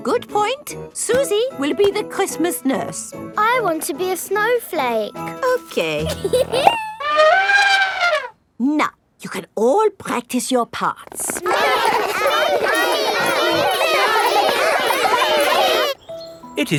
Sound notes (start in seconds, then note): 6.0 giggles; 7.0 trumpets; 11.3 all laughing and chattering